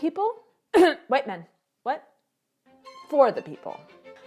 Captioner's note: coughs